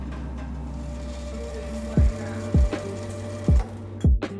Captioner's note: grain sifting